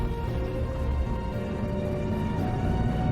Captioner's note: truck enginine rumbling